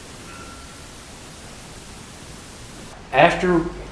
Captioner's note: ringing